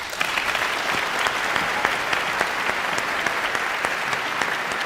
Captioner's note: audience applauding